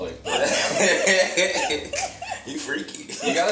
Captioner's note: group laughs